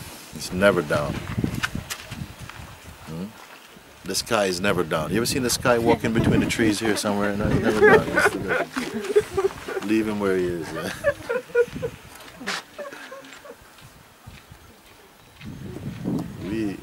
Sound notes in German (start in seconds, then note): 5.9 Lachen; 11.5 Lachen hält an; 13.5 Stille